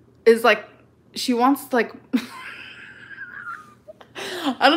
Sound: laughs

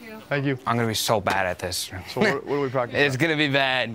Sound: laughs

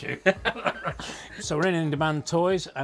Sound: laughs

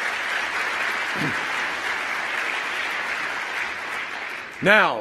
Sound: applause

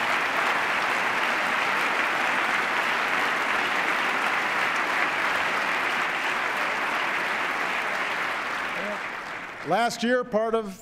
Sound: applause

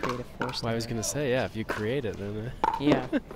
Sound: laughing

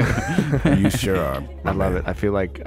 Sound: laughing

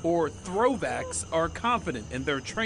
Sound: shouting

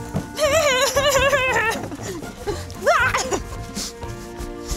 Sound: laughing

